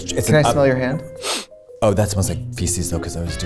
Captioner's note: sniffs hand